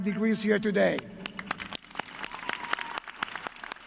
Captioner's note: applause